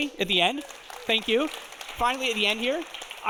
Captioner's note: audience applauding